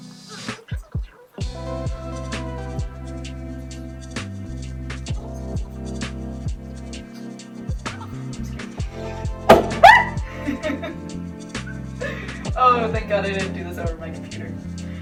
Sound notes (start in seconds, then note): 9.5 pop; 9.8 scream